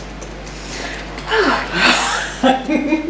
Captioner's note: fingers tapping; inhales deeply; laughs